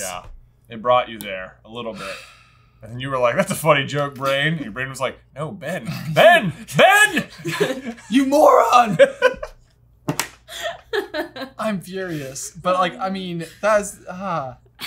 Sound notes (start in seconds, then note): 10.5 laughing